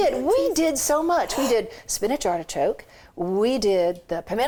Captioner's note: gasps